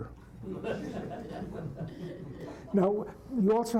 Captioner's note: laughter